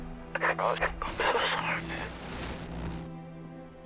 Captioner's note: static crackling